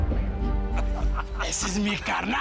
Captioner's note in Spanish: Risas